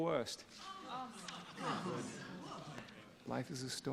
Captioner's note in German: Alle keuchen